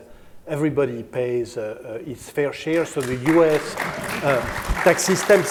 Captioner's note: laughter